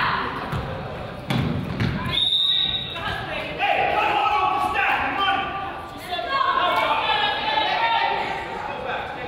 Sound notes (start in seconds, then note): 2.0 whistle blows